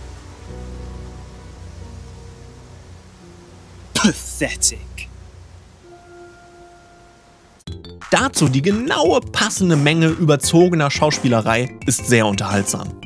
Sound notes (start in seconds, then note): none